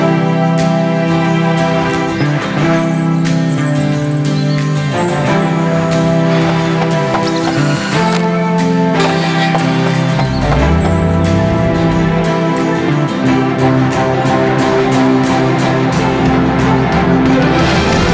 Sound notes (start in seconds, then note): 3.1 birdsong; 6.2 bird twittering